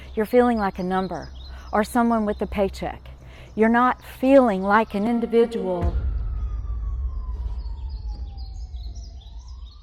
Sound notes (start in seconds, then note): 4.8 tense music; 5.0 siren blaring